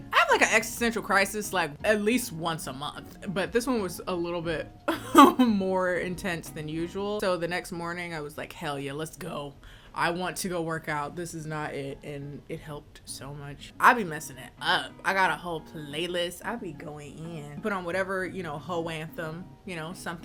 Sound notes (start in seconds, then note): 4.9 chuckles